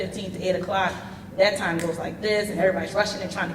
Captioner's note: clicks